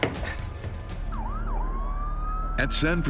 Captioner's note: sirens wail